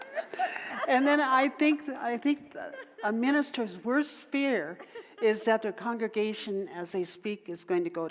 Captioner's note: audience laughter